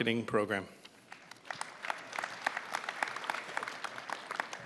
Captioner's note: applause